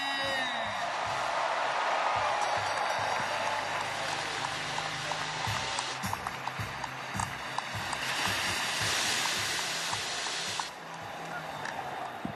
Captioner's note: cheering